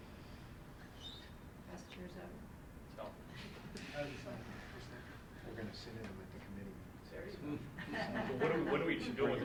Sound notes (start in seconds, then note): 3.5 speaking off mic